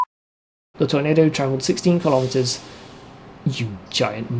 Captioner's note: truck hiss